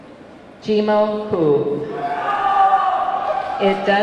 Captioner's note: audience clamoring